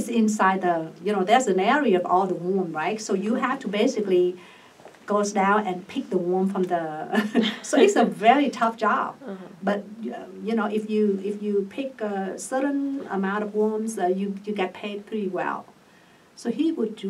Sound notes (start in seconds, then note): 7.5 laughs